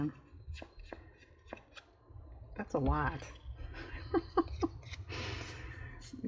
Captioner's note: laughs